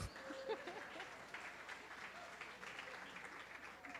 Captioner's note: clapping